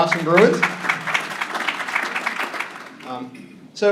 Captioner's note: applause